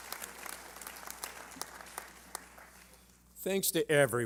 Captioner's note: applause